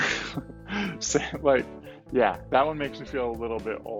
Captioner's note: laughs